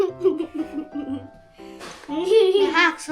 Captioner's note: laughter